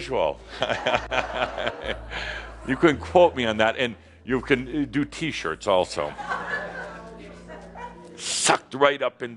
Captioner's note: more laughter